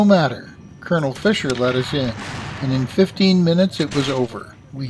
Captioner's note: a cannon fires; rapid cannon and musket fire